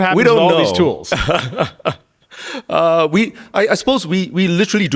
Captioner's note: Min chuckling